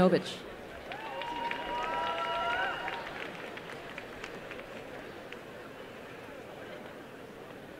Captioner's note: applause